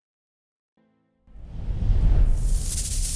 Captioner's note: wind blowing; seeds rustling